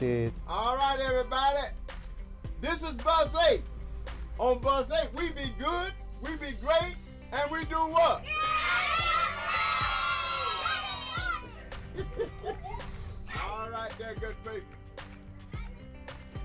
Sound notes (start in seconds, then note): 8.2 students cheering; 11.3 laughing